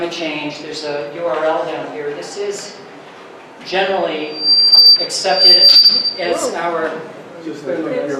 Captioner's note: mic feedback